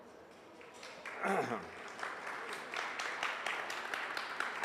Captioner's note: audience applauds